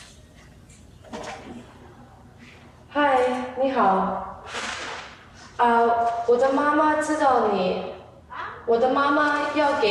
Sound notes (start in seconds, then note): 2.8 speaking in foreign language